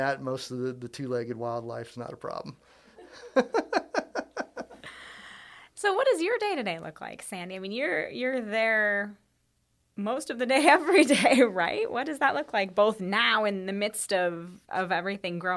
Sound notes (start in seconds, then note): 3.0 laughing